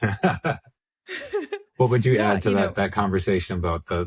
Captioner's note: laughs